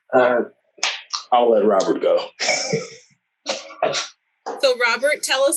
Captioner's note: laughs